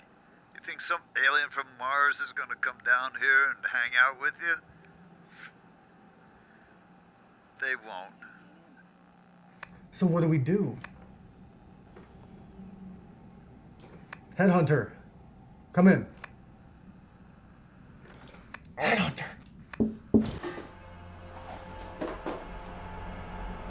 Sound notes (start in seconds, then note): 19.8 knocking from above; 20.4 scary music